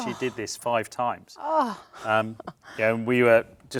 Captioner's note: chuckles